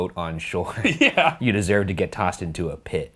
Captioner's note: laughing